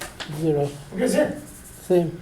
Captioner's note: voiceover